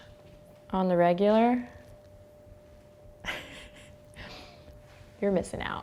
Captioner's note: laughs